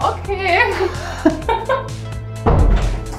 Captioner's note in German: Lachen; Dumpfes Türschließen